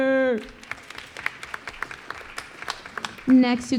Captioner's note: applause